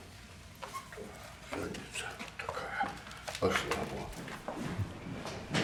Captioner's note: speaks foreign language